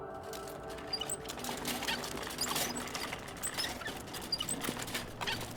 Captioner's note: trolley squeaks